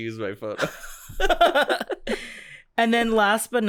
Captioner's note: chuckles